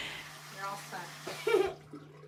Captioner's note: laughter